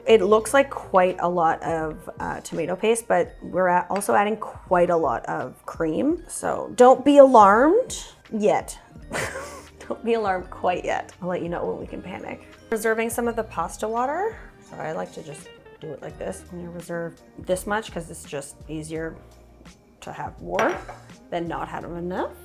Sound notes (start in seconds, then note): 9.1 chuckles